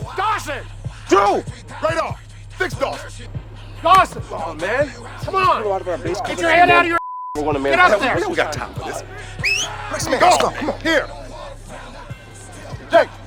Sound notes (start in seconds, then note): 2.6 player shouting; 7.8 whistles; 8.4 radar chattering